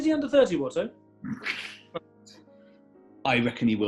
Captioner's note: sniggering